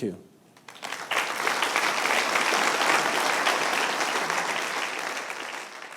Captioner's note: audience applauding